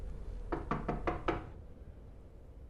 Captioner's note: knocking on door